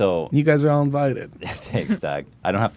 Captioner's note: laughs